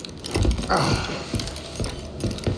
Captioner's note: grunts